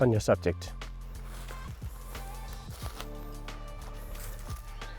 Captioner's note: foliage crunch